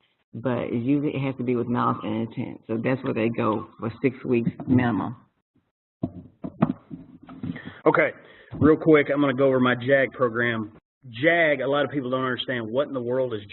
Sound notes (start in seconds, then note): 7.2 pause